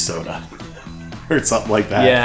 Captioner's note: laughs